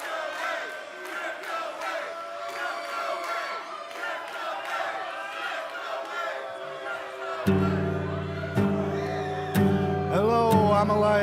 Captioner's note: fans chanting